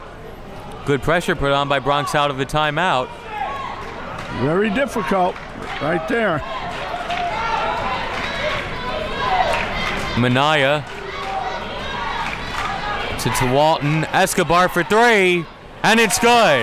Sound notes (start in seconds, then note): 7.6 crowd talking and yelling